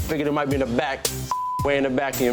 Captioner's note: beep